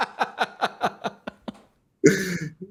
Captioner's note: laughter